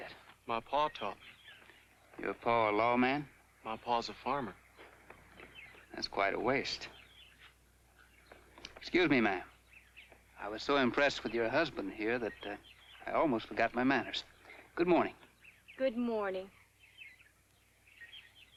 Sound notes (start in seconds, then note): 16.0 contentious tone